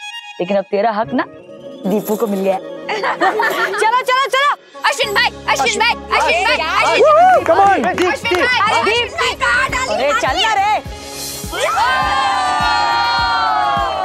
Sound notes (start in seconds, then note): 2.8 laughing; 11.5 cheering